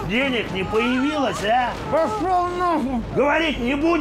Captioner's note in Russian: через кляп